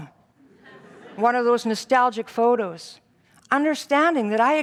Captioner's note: audience laughs